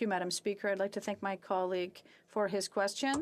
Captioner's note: speaking French